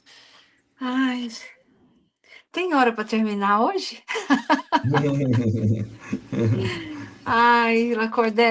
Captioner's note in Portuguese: risadas